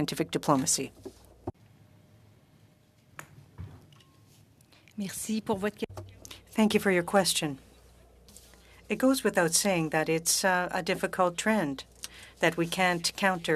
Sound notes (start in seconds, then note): 8.8 speaking French